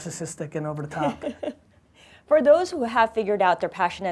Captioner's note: laughing